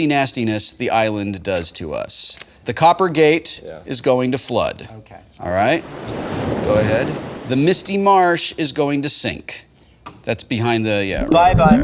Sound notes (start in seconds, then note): 5.6 waves crashing